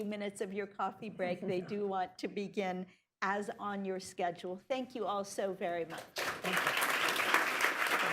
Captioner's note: applause